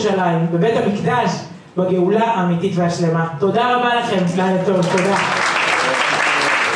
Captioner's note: applause